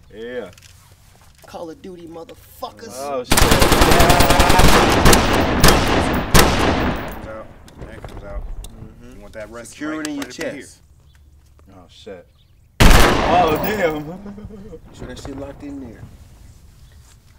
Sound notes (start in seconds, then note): 3.3 gun firing; 12.8 gun firing